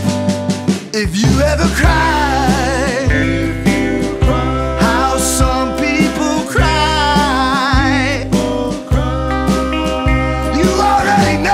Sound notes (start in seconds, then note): 10.3 people cry